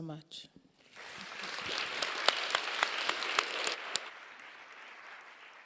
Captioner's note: audience applauding